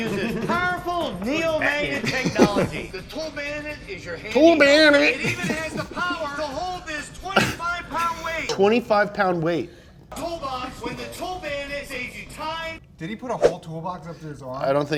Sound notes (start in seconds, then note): 4.3 laughs